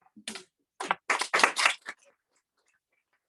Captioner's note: applause